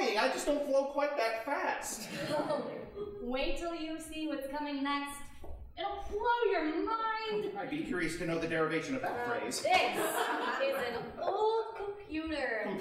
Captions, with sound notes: I just don't flow quite that fast. >> (laughing) Oh... wait till you see what's coming next. It'll blow your mind! >> I'd be curious to know the derivation of that phrase. (audience laughing) >> Now, this is an old computer.